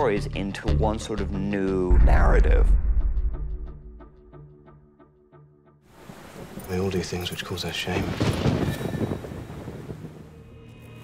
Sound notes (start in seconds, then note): 7.6 thunder rumbles